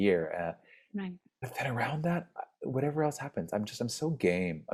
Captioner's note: speaks faintly